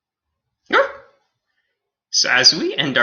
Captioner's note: Alien Space Doggy barks